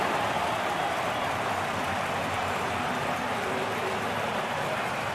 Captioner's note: cheering